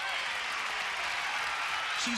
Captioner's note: cheers and applause